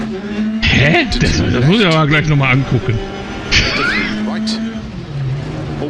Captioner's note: laughs